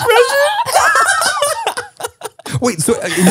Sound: everyone laughs

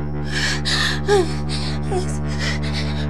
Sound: gasping

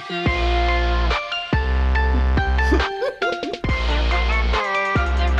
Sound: giggles; upbeat EDM music

